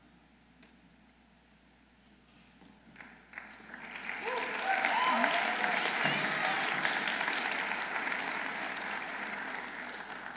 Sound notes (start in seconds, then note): 6.0 audience applauding